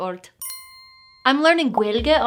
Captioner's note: bell dinging